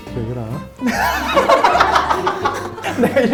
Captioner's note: haha